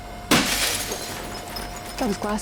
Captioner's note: window smashes